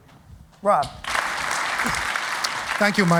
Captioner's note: applause